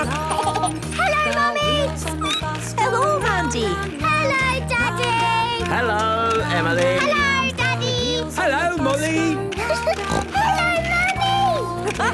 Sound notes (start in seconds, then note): 0.0 laughter; 0.0 snorting; 2.2 squeaking; 9.9 giggling and snorting